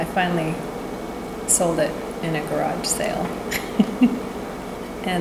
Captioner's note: laughter